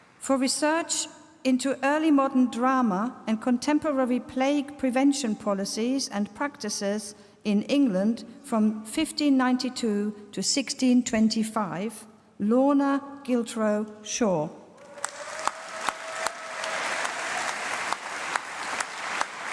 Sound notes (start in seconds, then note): 14.8 applause